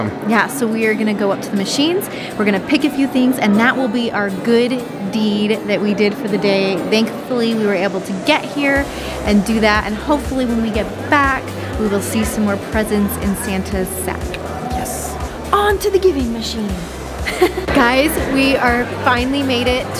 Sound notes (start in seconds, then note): 17.2 laughs